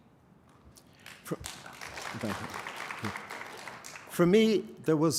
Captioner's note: applause